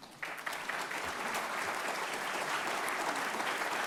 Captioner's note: audience applauding